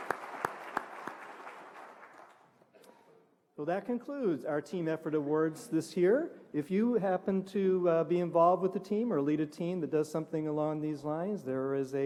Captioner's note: applause